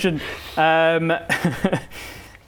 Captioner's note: laughs